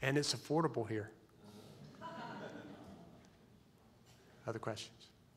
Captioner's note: audience laughs